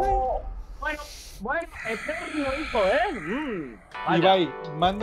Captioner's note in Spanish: resopla